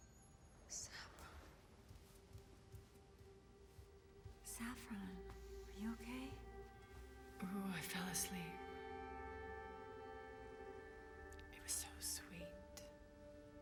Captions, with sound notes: [whispers] Saffron! Saffron, are you okay? Ooh, I fell asleep. It was so sweet.